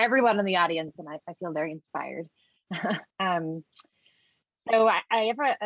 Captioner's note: chuckles